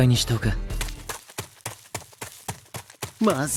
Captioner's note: running noises